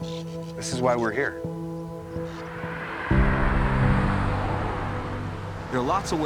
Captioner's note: tires humming